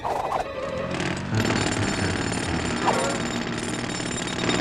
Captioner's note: jackhammer hammering